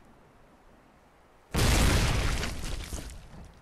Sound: closer boom

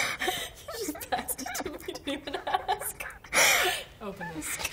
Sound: laughs

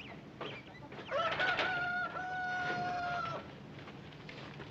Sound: rooster crowing in distance

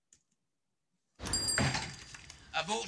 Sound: bell ringing

